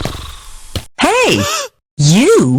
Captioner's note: footsteps; gasps